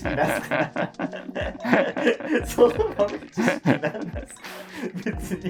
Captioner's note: laughing